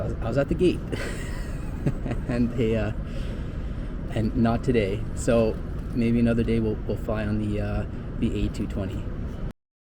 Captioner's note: laughs